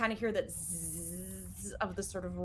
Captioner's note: mimicking buzzing